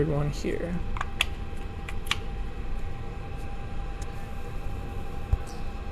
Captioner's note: connection clicks